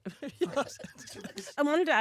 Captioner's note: laughter